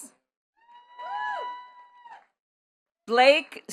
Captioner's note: attendees cheering and clapping